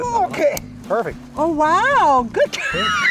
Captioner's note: straining